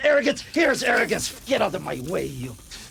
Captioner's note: spray spattering